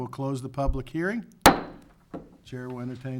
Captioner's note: gavel taps